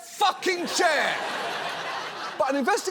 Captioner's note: audience laughs